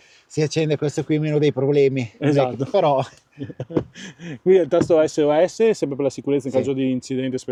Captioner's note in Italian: risate